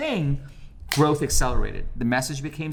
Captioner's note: snaps fingers